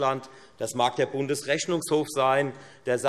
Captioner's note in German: none